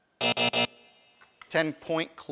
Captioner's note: alarm buzzes